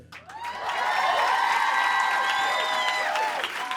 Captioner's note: applause and cheering